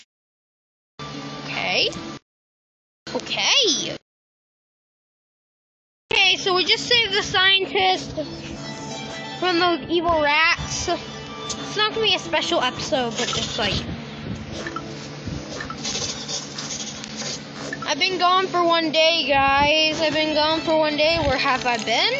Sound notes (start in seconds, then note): 14.1 Village minecraft hm noise; 16.1 more village hm noise